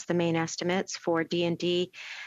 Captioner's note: speaking French